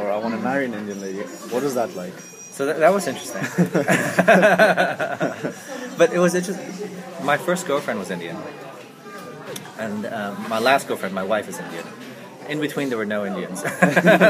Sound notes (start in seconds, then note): 3.3 laughs; 13.7 laughs